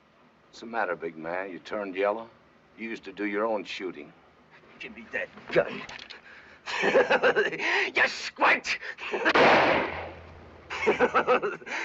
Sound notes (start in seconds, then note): 6.7 manic laughing; 9.2 gunshot